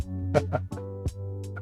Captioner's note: laughs